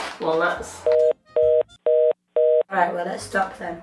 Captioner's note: busy dial tone